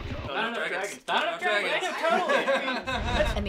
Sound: loud rock music; loud chatter

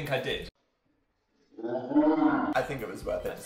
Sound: slowed down, deep voice

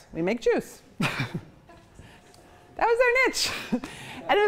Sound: chuckles

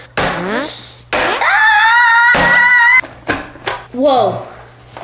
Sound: screaming

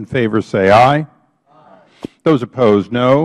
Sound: chorus of ayes

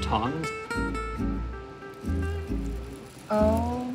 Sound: sizzling

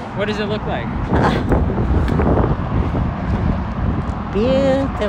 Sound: laughter

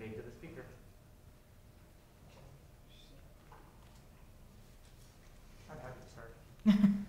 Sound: students indistinct chatter; chuckles

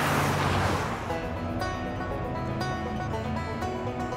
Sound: cars revving

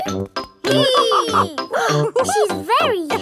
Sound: both straining; giggles; madam gazelle laughing

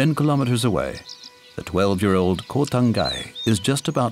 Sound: birds chirping

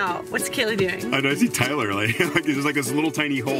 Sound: laughs

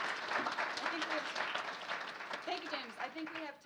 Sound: applause

